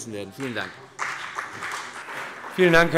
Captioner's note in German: Beifall CDU und BÜNDNIS 90/DIE GRÜNEN